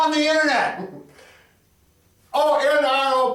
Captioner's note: chuckles